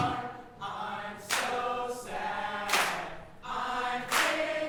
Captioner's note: clapping